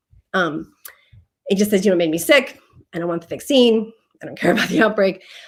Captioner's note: laughter